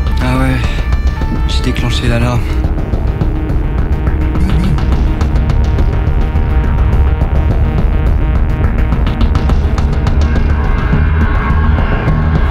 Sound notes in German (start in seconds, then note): 4.4 Handy vibriert stark